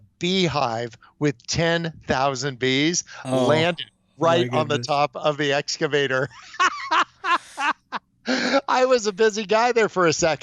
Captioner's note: laughs